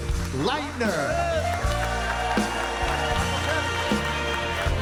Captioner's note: audience cheering and applauding